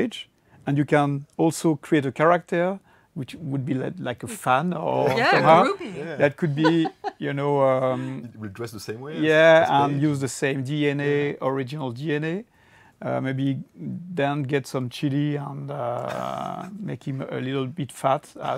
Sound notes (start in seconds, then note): 5.0 laughs; 16.0 laughs